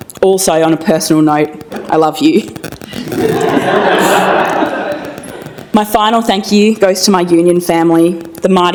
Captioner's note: laughter